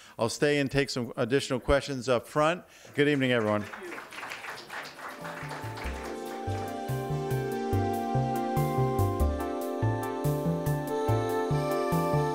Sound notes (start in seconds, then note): 2.8 audience clapping; 5.1 upbeat music